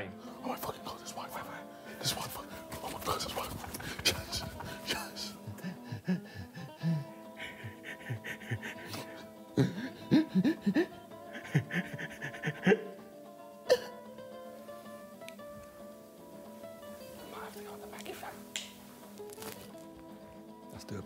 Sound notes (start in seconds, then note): 2.0 men whisper excitedly; 5.7 men gasp; 14.6 upbeat guitar plays